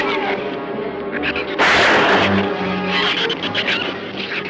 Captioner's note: gun fires